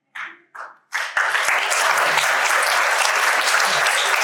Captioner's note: audience applauding